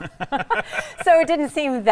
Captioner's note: both laughing